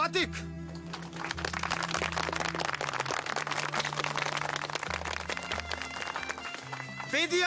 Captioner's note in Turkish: Alkışlar